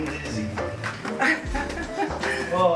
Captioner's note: laughs